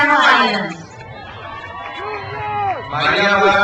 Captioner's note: crowd cheers